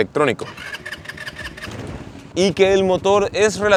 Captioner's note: engine starting